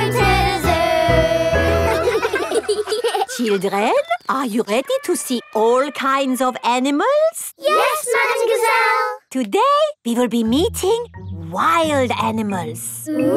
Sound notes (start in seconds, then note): 1.3 children laughing